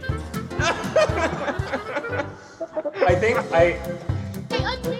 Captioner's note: chuckles